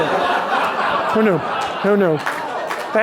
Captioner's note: laughter